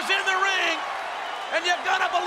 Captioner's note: audience cheers